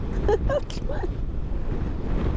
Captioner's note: laughs